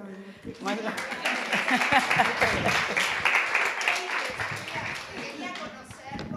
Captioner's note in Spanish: Aplausos